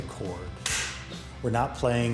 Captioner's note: claps